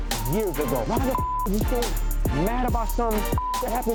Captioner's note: beep